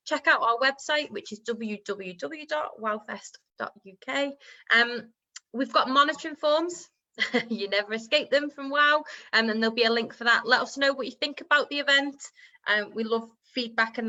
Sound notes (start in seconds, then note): 6.5 laughs